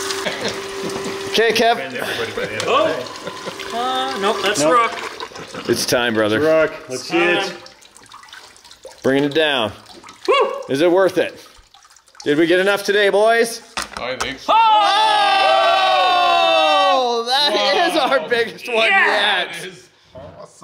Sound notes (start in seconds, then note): 14.4 group cheers